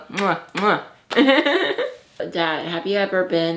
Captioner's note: laughs